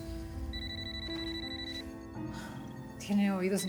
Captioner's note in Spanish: suena el celular